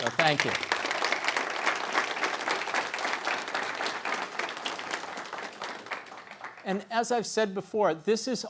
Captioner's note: applause